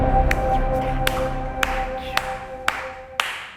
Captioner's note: clapping